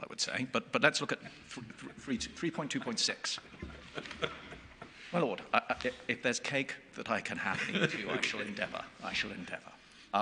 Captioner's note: chuckling